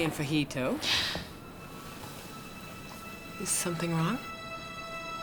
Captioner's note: Maureen gasps